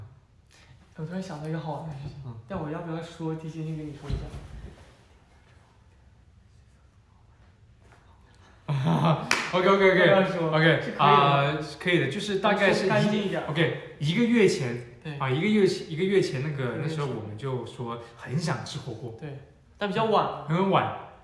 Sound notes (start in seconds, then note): 6.2 whispering